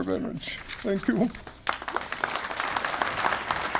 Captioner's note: pages rustling; tearfully speaking; audience applauds